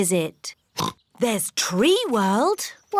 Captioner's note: oinks